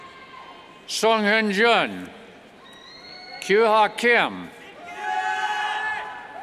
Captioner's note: cheers